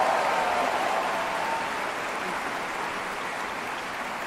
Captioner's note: applause